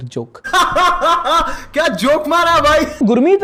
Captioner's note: laughs